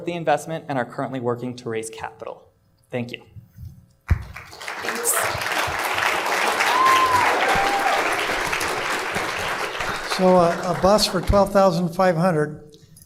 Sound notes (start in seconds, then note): 6.8 applause